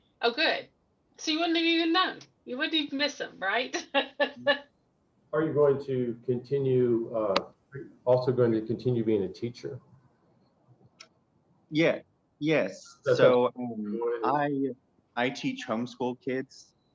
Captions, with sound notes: Oh, good. You wouldn't even have known. You wouldn't even miss them. [laughs] Are you also going to continue being a teacher? Yes. I teach homeschooled kids.